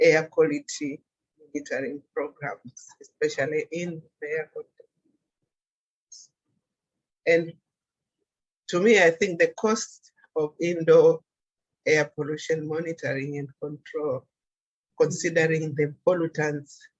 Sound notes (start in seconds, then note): 4.6 audio cuts out